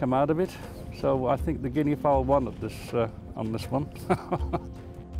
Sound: laughs

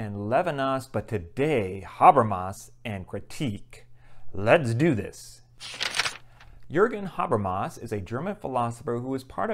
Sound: page turn

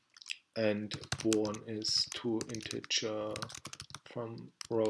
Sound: typing

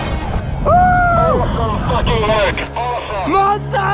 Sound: over radio

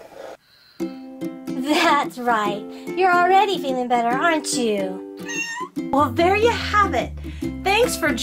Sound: cat meowing

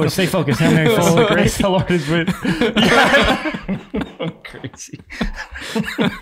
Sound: all laughing

